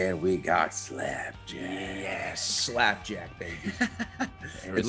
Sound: laugh

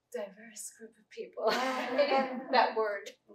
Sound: laughter

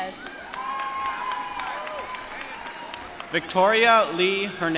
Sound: applause

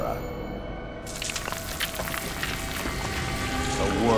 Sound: crackling

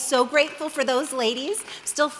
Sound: audience clapping

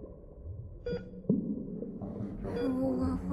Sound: medical beeping

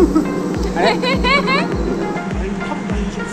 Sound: laughter

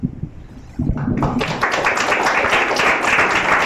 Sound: applause

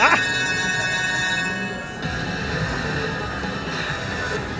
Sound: bell ringing

